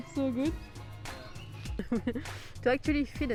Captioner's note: chuckle